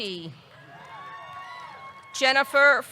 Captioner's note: audience cheering; audience clapping